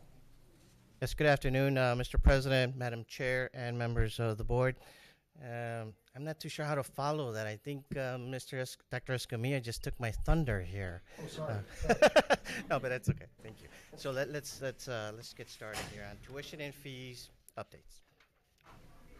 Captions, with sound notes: - Yes good afternoon Mr. President, Madam Chair and members of the Board. I'm not too sure how to follow that, I think Dr. Escamilla just took my thunder here (laughs) but it's okay, thank you. So let's get started here on tuition and fees updates.